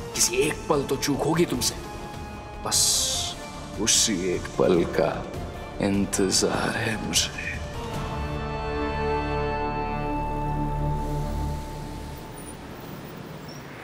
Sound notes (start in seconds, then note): 10.6 traffic sound